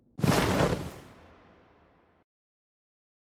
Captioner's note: whoosh